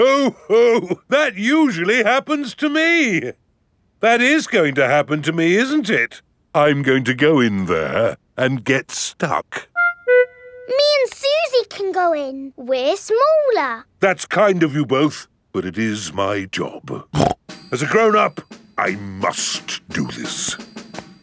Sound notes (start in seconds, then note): 17.1 snorts